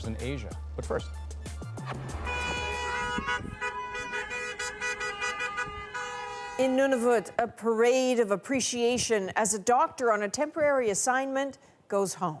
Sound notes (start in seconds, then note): 1.8 horns honking